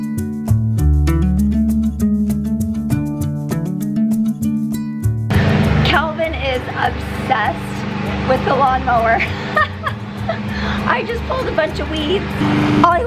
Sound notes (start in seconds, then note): 0.1 gentle music; 9.1 laughs